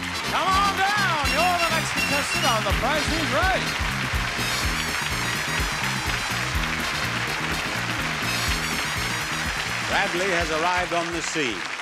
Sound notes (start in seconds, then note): 3.6 upbeat music; 4.8 audience applauding